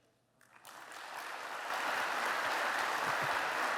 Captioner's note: applause